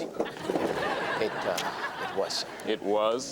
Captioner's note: audience laughs